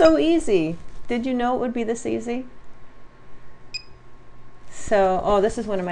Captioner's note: single beep